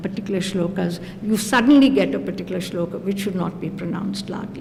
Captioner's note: non-english; non-english